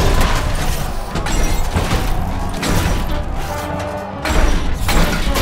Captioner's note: robots whir, clang; crowd clamors